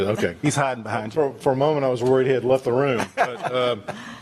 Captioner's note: laughter